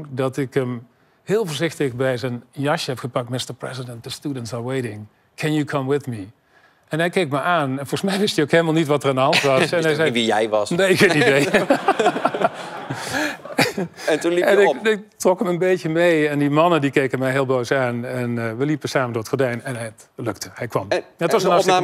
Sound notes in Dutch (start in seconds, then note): 11.2 gelach